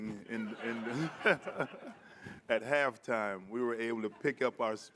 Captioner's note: audience laughing